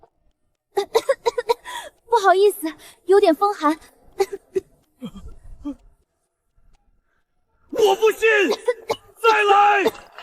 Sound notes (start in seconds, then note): 4.1 cough cough